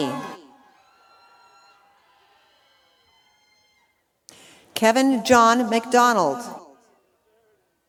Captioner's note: applause